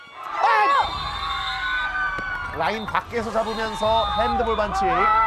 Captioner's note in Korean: 호루라기 소리